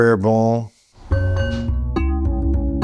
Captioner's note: bowl chimes; calm music